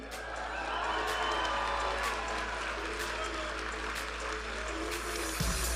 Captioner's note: audience applauding and cheering; vibrant music